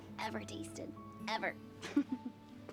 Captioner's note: laughs